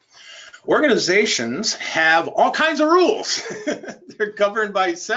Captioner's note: laughs